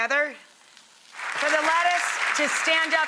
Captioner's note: applauding